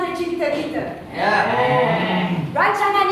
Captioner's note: animals cheer